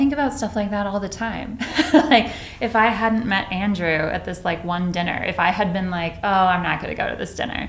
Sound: laughs

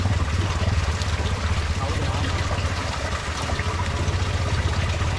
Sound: sound of water

